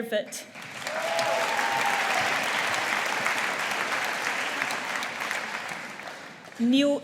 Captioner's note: audience applauding